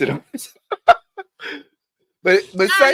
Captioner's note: laughs